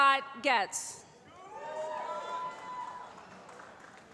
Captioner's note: cheering